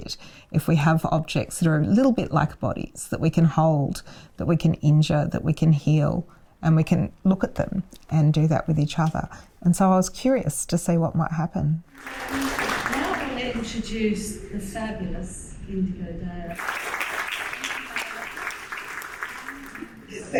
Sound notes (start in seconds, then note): 11.9 audience clapping; 16.5 applause